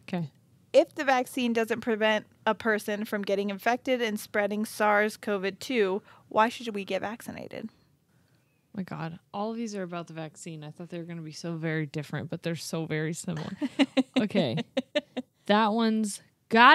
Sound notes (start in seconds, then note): 13.4 chuckles